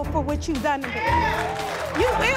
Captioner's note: audience cheers